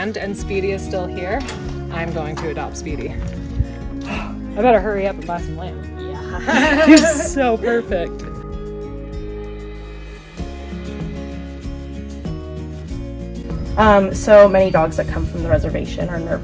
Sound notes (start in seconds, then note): 6.0 laughs; 8.7 gentle music